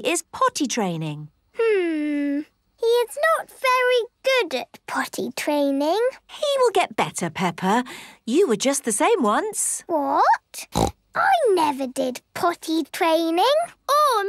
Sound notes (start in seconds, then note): 10.7 snorts